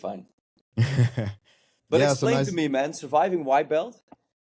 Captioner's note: chuckles